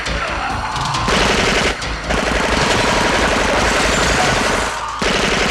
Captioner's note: Rusty growling; wall clattering; machine gun firing